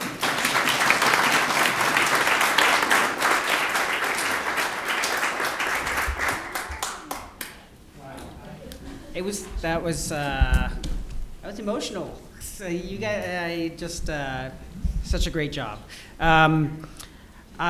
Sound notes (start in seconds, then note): 0.0 applause; 7.9 background chatter